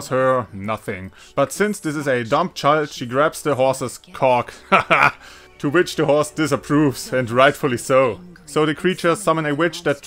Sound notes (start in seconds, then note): 4.5 haha